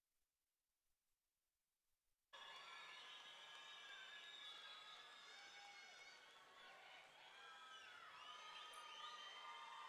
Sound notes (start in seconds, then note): 2.4 audience cheering; 2.4 audience clapping